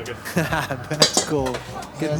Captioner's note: laugh